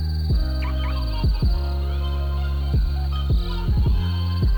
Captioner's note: car beeps